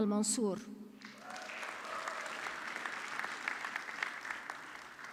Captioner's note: audience clapping